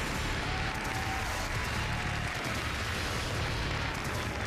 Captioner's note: applause